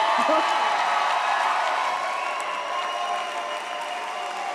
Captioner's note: audience cheers